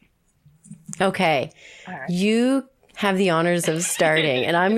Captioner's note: laughs